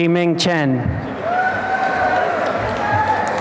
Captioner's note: applause and cheering